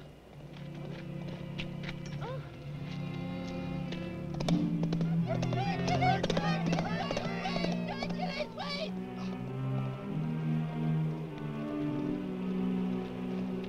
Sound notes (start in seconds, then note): 5.2 group shouts